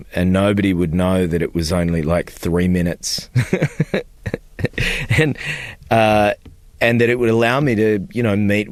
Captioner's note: laughter